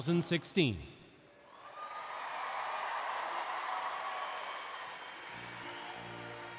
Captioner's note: applause and Cheering